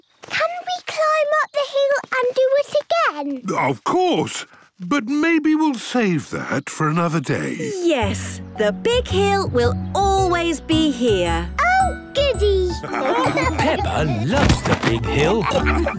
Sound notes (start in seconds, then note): 12.7 laughing